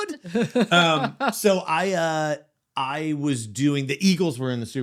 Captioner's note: laughing